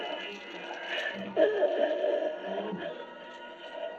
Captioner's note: choking